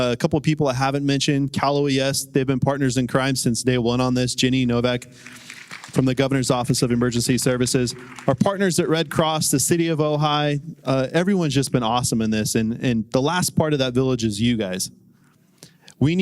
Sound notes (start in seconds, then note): 5.0 applause